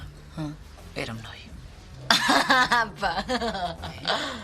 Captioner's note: laughs in disbelief